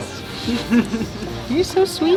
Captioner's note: laughter